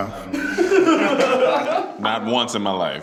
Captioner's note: laughs